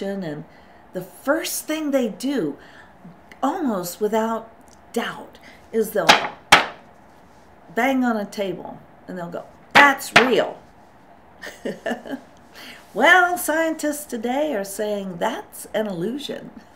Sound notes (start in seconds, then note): 11.4 laughs